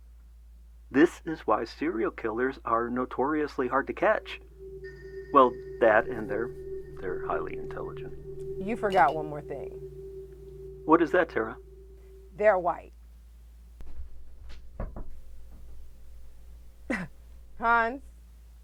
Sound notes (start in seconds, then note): 14.0 glass knocks